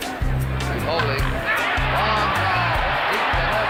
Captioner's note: chilled music; audience cheering